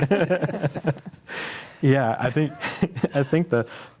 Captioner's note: panelists laughing